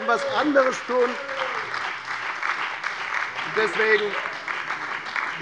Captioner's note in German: Lebhafter Beifall bei der FDP, der SPD und der LINKEN